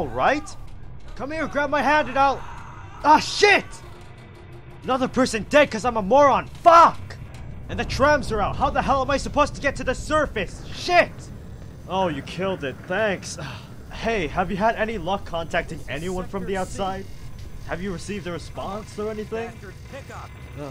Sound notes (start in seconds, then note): 0.3 yelling; 1.4 screams; 1.4 yelling; 13.4 sigh